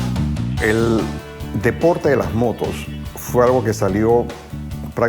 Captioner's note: speaking Spanish